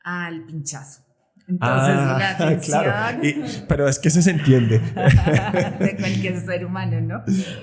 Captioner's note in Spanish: risas